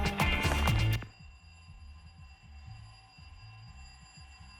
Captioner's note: ringing